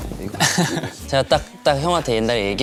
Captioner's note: haha